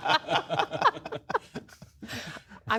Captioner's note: laughter